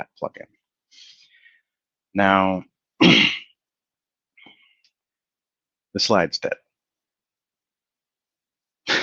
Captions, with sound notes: Now, (clears throat) the slide's dead.